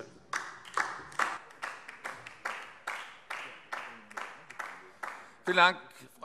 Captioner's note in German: Beifall DIE LINKE